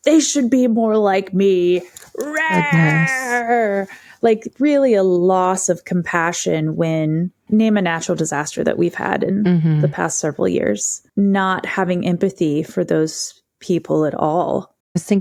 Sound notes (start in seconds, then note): 2.1 beats chest